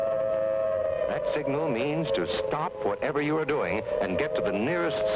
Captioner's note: loud sirens